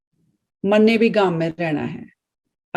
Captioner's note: speaking in Hindi